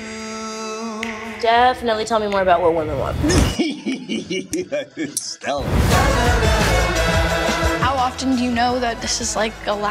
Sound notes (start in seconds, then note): 3.2 laughing; 5.6 bouncy music